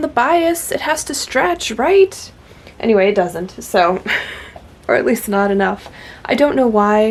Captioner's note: laughs